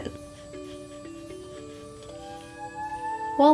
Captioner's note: brushing